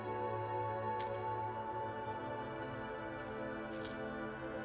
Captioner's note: Jim chewing